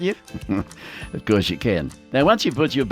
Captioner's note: chuckles